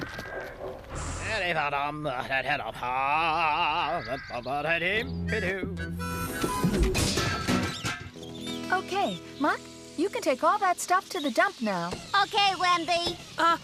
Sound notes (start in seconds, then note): 1.6 singing; 7.2 metal Clanging